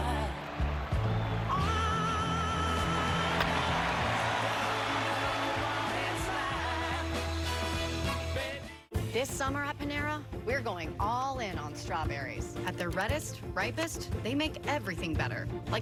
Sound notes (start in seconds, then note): 6.0 cheering